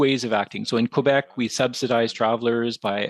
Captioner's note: speaking French